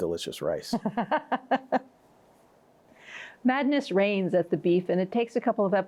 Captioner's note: laughs